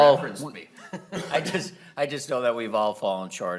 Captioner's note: laughing